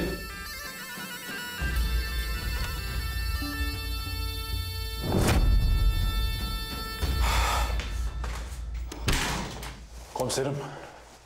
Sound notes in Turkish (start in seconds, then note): 7.2 Derin nefes sesi